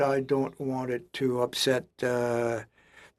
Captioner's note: speaking French